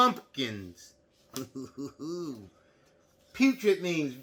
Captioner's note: groans